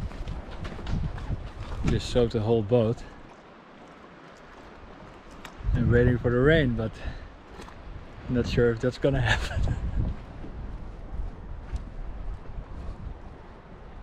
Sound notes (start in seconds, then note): 9.2 chuckles